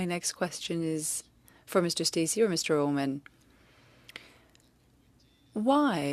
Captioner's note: speaking French